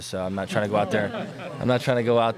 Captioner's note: laughter